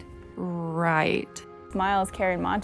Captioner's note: uninterested